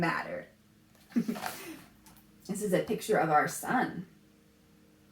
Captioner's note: laughs